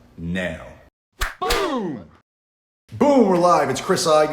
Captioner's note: smack